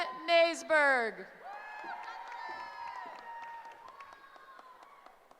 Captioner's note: cheering